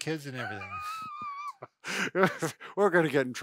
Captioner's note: laughing